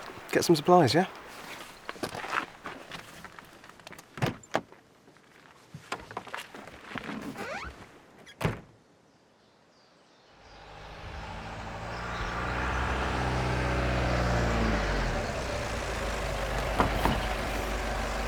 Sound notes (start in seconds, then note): 8.3 closes door; 9.0 birds chirping; 10.4 van motor revving